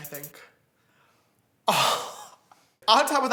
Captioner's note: man laughs